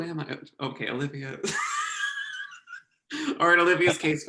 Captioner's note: laughing